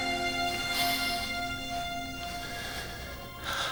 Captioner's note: sniffing